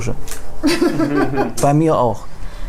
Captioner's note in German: Lachen